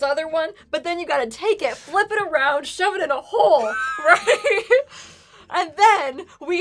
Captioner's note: laughing